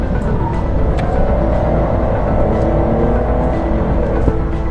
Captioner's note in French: Vrombissement du moteur